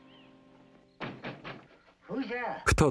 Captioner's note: knocks